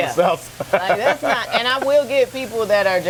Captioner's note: laughs